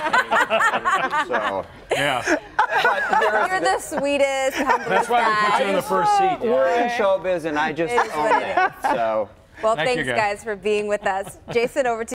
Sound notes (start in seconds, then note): 7.9 laughter